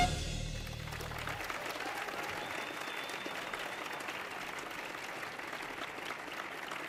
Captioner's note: audience cheering; audience applauding